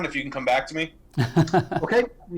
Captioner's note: laughs